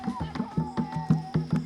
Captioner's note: footsteps on leaves